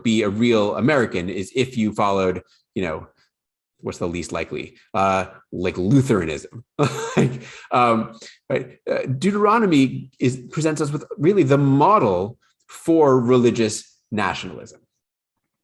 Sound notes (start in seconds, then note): 6.8 chuckling